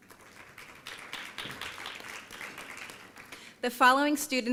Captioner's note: applause